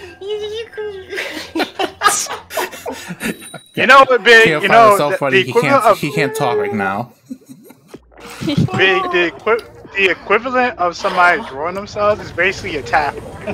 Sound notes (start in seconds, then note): 2.0 continue laughing; 7.6 chuckles; 8.0 continue laughing and wheezing